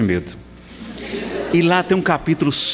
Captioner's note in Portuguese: risadas